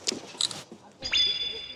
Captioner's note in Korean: 찰칵